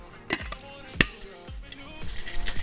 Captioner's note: clicks; thuds